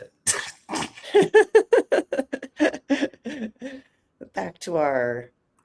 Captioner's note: laughing